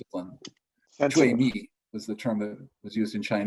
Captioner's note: speaks in foreign language